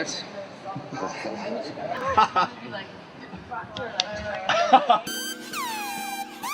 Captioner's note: talking; laughs